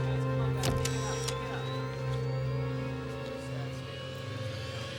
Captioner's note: camera clicks and whines